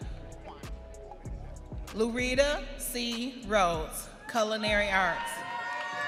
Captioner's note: audience cheering